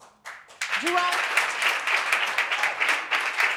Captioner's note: audience clapping